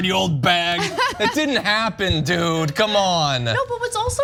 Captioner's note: laugh